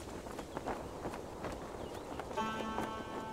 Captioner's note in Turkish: Rüzgâr sesi